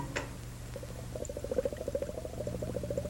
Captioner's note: bubbling